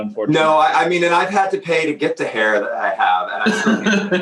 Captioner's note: laughter